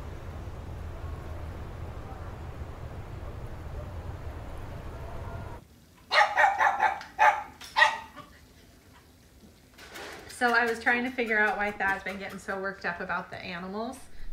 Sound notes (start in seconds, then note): 0.0 wind blowing; 6.1 dog barking